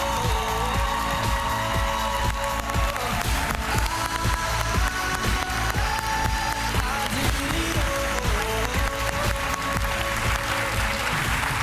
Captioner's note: cheers and applause